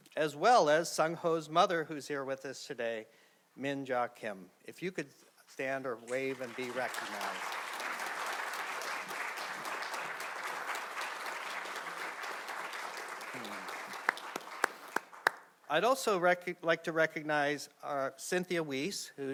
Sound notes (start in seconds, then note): 7.1 audience clapping